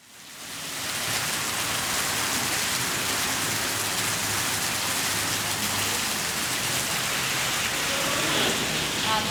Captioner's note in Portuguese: Chuva forte caindo